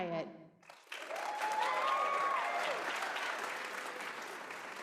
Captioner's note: applause